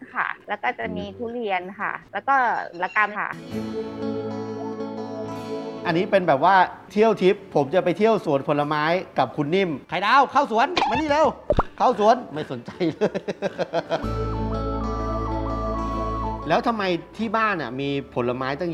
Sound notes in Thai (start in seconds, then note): 12.6 หัวเราะ